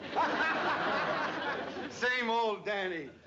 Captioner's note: laughing